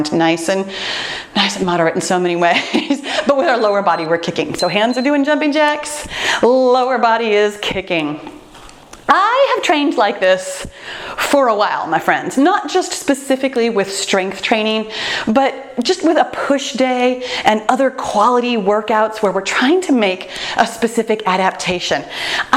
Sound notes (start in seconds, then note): 4.5 timer beeps